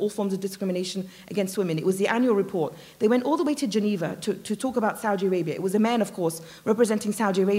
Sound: none

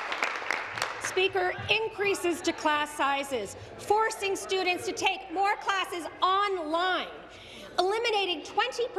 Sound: some Applause

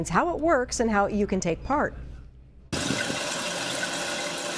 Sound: water pouring out of faucet

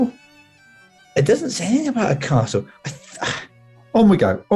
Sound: sighs

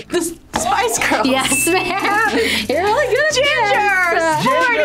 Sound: dinging sound

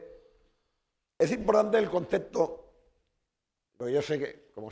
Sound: speaking spanish

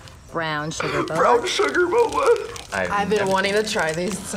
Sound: laughs

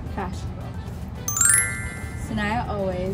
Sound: bell rings

